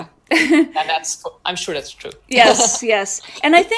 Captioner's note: laughs; laughs